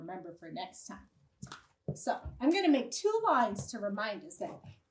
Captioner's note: marker clicks